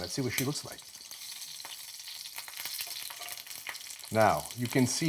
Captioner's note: oil sizzling loudly